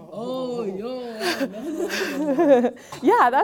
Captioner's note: group chuckling